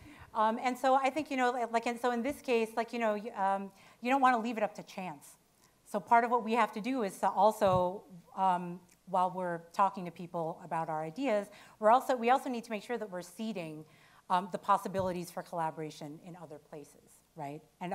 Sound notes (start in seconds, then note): none